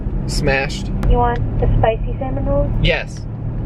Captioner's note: woman on phone